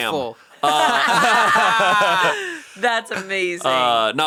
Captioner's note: all laughing